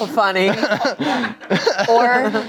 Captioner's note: everyone laughs